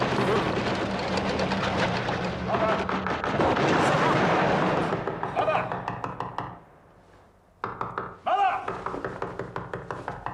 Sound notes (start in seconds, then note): 7.6 Mengetuk pintu